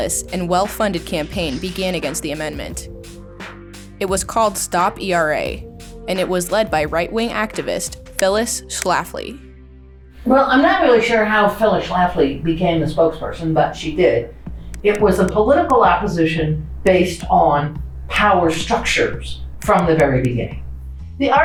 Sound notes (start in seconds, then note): 8.1 words click; 16.2 words click